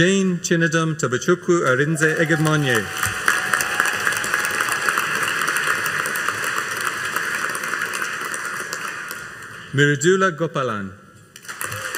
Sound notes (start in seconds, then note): 3.7 audience cheering and applauding